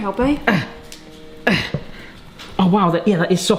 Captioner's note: grunting